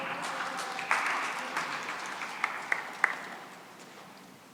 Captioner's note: applause